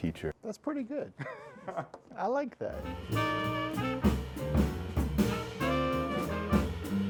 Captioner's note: laughter; jazz music